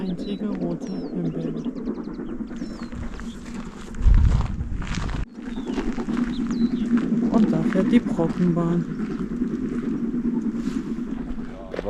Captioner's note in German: Bahngeräusche